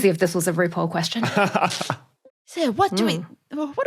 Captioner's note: chuckles